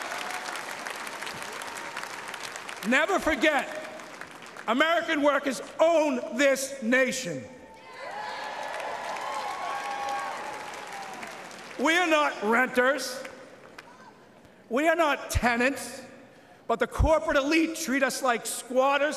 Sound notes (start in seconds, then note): 4.3 applause